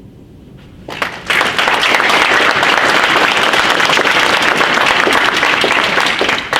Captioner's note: audience applauds